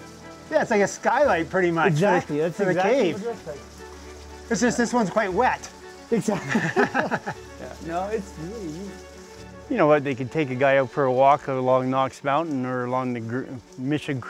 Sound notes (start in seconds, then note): 6.2 chuckling